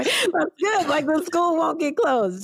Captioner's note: laugher